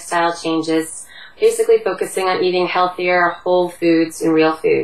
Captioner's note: Vietnamese